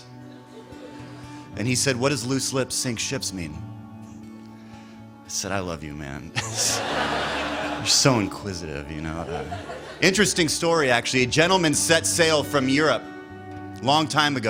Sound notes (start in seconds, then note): 6.3 laughter